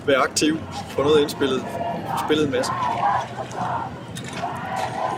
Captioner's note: people cheering in the background